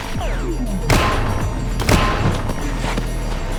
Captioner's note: blows thudding; head clanks; intense music